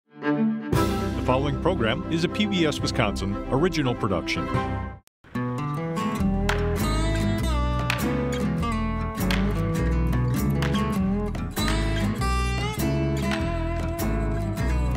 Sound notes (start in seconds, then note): 5.2 slow folksy music; 10.5 sledgehammer knocking